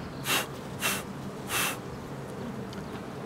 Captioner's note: blowing